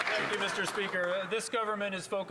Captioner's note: some Applause